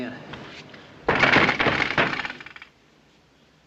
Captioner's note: Knocking